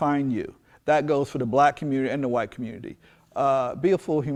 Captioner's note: none